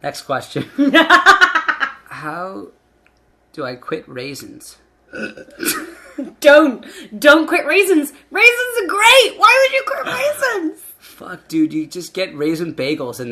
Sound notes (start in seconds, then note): 1.0 laughing; 5.2 laughing